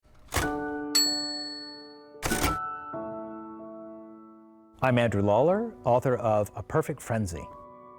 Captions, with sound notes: (gentle music) (typewriter bell rings) - I'm Andrew Lawler, author of "A Perfect Frenzy."